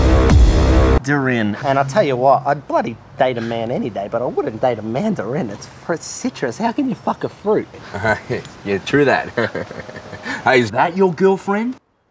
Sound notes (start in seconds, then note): 0.0 dramatic music; 9.3 uncomfortable giggles